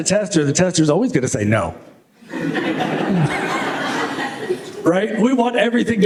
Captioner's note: laughter